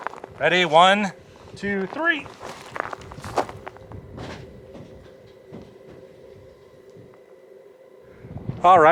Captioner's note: repetative rock banging slowly fading out